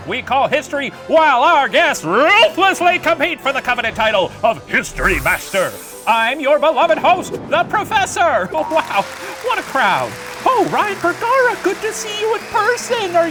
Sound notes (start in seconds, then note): 8.5 audience applauding